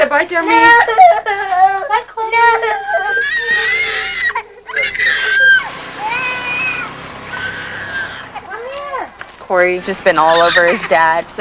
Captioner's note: baby crying